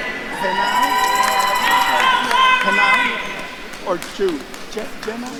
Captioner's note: attendees cheering and applauding